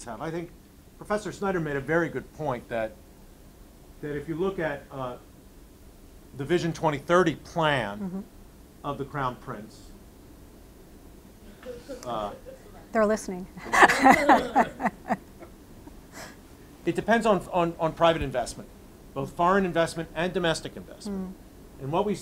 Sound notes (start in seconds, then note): 11.6 audience laughing lightly; 13.6 laughing